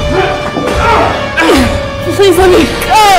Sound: Nicole groans

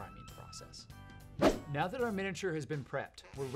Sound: swoosh

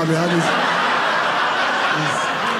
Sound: audience laughing

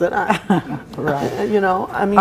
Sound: Sally chuckles

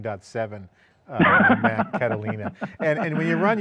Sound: laughs

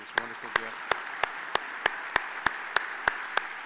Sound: applause

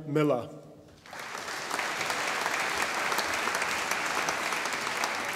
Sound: audience applauding

